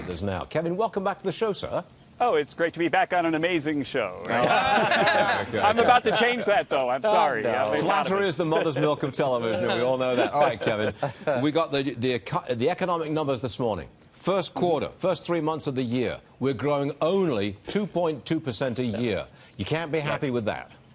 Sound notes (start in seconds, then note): 11.5 laughter